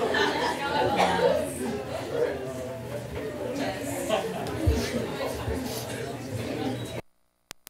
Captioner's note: chatter from kids